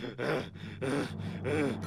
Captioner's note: angry panting